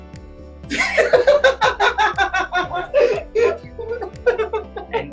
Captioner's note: laughs